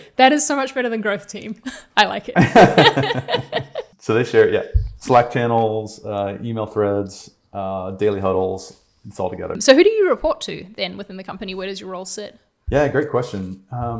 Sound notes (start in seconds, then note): 2.4 chuckling